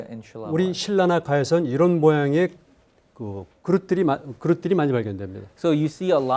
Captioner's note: speaking in Korean